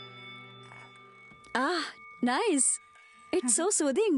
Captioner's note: tibetan Bell Sound